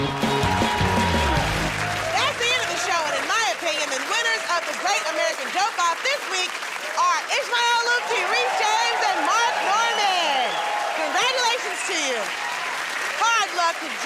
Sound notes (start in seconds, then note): 0.9 cheers and applause